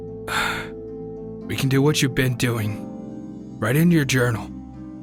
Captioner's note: sighs